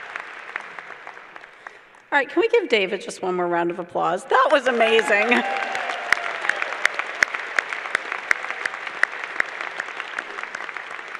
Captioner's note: clapping